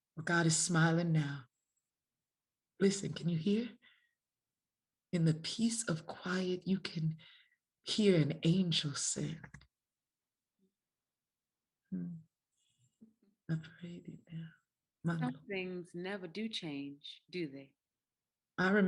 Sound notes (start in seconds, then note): 13.7 speaks faintly